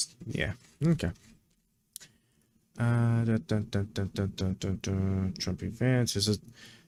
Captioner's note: humming